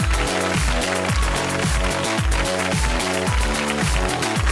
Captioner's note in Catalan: aplaudiments